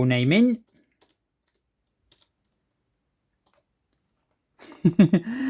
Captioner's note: keyboard typing sound